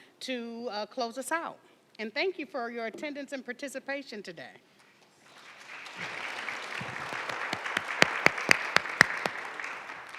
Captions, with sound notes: to close us out. And thank you for your attendance and participation today. (attendees applauding)